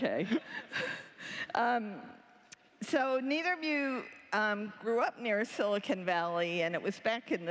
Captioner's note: laughter